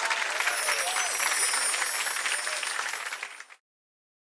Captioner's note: chiming